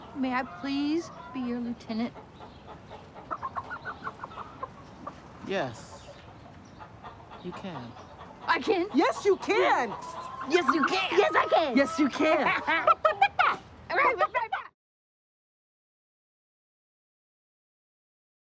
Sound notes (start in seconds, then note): 12.8 imitating chicken clucking